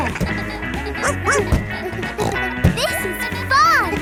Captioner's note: snorts; barks